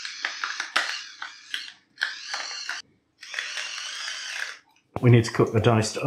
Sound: electric grinder

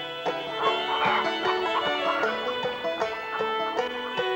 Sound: chicken clucking

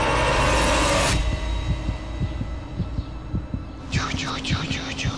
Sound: heart beating

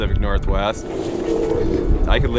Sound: wind blowing

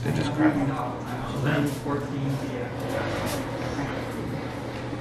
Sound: background chatter

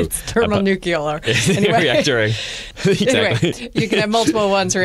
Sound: laughter

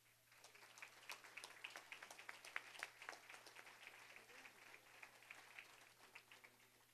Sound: applause

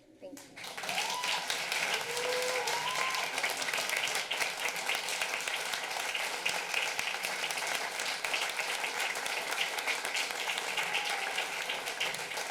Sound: applause

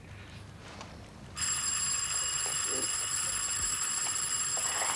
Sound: doorbell; persistent ringing

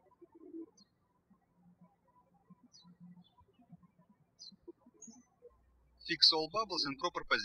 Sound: bird chirping

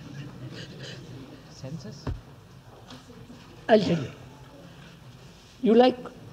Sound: laughs

